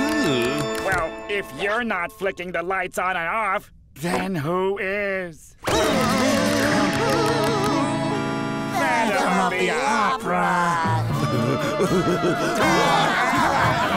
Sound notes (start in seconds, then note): 6.9 clicking; 10.9 laughing